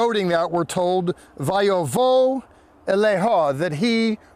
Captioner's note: speaking in Hebrew